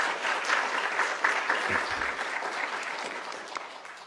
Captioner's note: applause